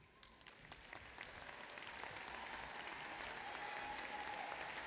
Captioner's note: applause